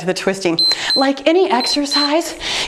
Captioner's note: timer beeps